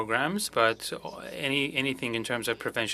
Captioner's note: speaking french